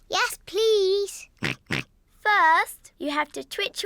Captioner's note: snorts in agreement